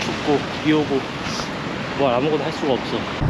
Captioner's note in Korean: 훌쩍